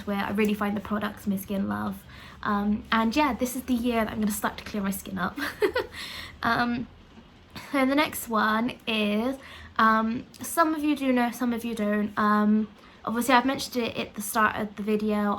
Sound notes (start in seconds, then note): 5.4 laugh